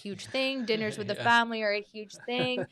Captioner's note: chuckles